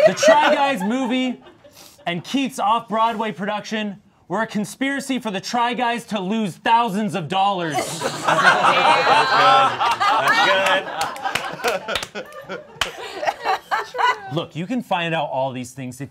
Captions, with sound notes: The Try Guys movie and Keith's off Broadway production were a conspiracy for the Try Guys to lose thousands of dollars. (all laughing) Look, you can find out all these things